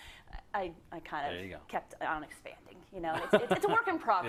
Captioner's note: laugh